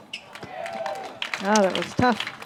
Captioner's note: applause